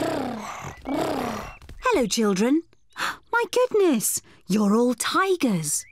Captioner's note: gasps